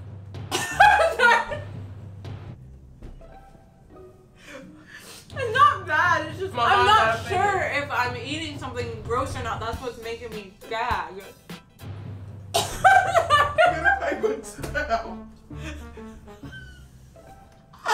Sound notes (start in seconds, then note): 0.2 gagging; 0.6 laughing; 12.1 gagging; 15.6 laughing